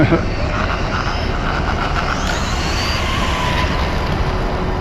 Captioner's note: electric motor screaming